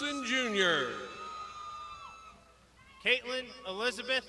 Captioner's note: crowd shouting